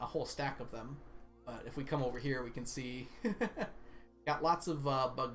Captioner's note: laughs